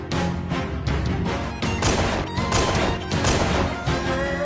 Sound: gunshots

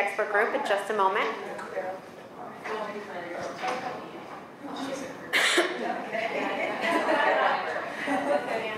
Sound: class chattering

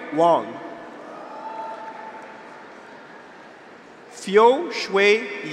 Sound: graduates cheer; audience applauds

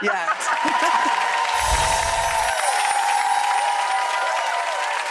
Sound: cheering and clapping

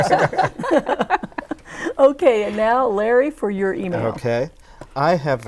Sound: laughing

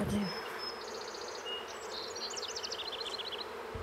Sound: humming, birds chirping

